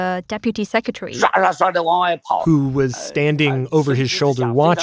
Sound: speaking Mandarin

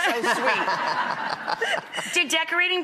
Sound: laughing

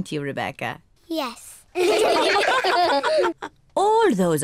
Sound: all laugh

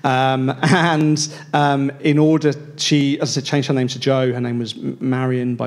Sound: chuckles

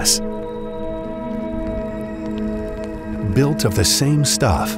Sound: lava crackling

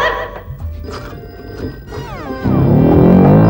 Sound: phone ringing

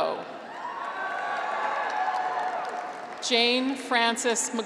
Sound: graduates cheer; audience applauds

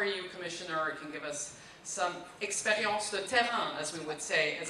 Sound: foreign language

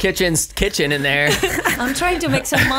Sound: laughs

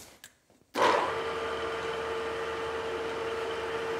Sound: whirring

